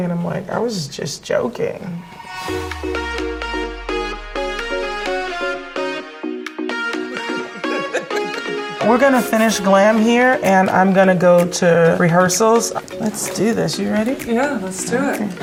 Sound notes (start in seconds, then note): 2.7 upbeat music; 6.9 laughing